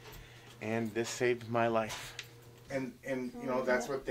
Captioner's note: background talk